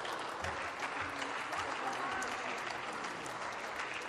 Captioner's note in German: Beifall